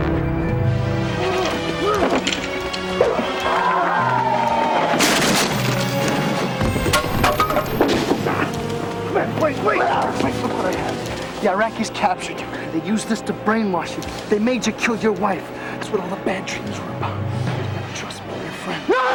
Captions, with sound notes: - No, Commander, don't! (wood breaking and falling) Wait, wait, wait. Look man. The Iraqis captured you. They used this to brainwash you. They made you kill your wife. That's what all the bad dreams were about. Trust me, I'm your friend.